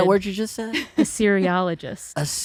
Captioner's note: laughs